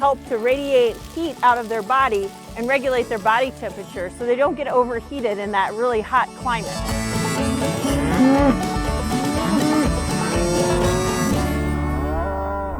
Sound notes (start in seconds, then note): 7.1 cows moo; 7.2 lively light music